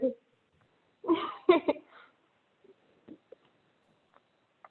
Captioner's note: laughs